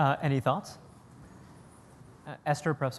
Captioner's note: pause